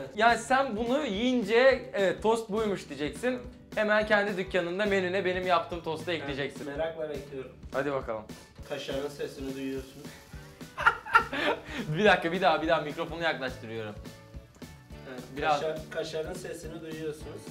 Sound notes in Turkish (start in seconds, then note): 10.7 yine güler